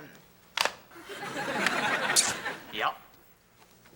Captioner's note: audience laughing